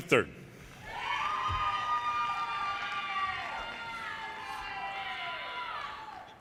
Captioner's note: audience cheers and applause